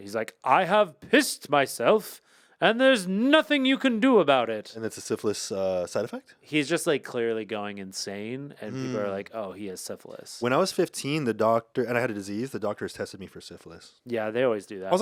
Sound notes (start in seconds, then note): none